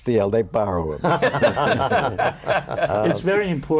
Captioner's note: laughter